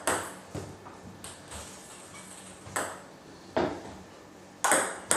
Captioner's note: ball ping pong hitting continues